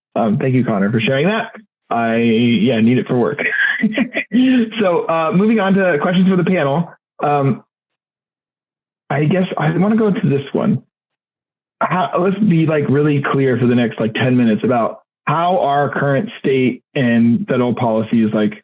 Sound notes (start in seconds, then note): 3.5 laughing